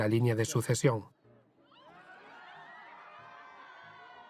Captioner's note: crowd laughing